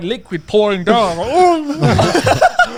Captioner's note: murmuring; laughs